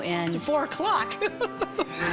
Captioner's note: laughs